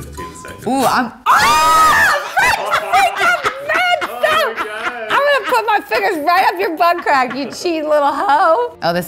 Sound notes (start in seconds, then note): 1.2 blowing; 1.2 screaming